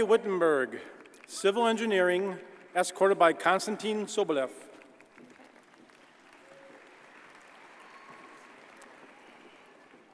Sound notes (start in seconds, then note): 4.7 audience applauds